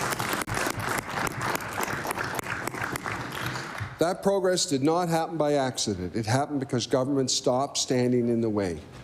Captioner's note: applause